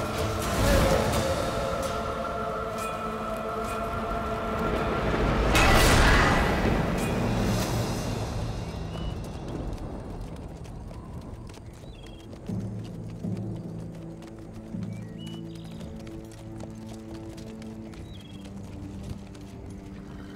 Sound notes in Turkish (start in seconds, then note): 12.4 Nal sesleri; 15.2 Kuş cıvıltısı sesleri